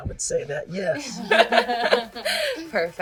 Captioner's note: laughing